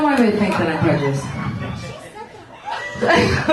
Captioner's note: laughs